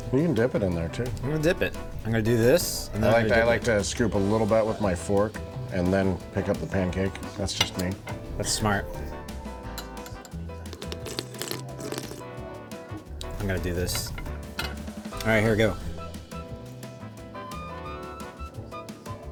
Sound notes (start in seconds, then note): 10.8 exaggerated slurping sound; 16.2 soft upbeat music